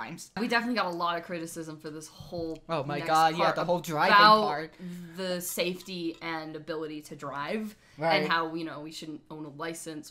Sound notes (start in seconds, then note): none